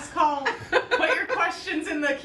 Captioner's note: laughs